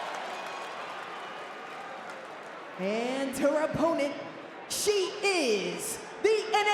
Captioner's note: applause